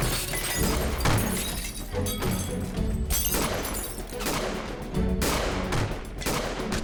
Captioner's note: glass shatters, gunfire; gunfire